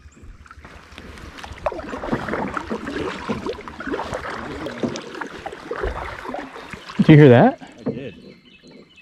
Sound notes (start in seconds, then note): 1.7 water sloshing